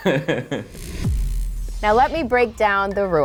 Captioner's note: laughs; bling sound